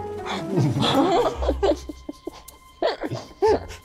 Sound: all laughing

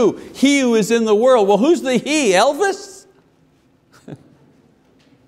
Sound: laughs

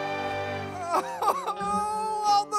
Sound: crying

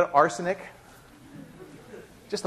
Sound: laughter

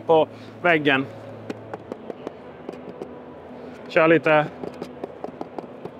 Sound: knocks on the plastic

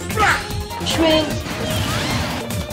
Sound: schwing!

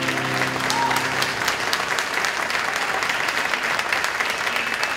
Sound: applause, cheering

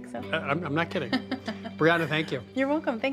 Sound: laughs

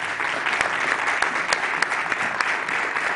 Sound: applause

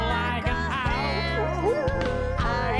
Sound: howling

